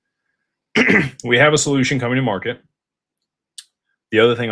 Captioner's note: clears throat